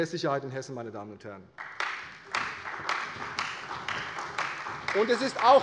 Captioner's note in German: Beifall bei Abgeordneten der CDU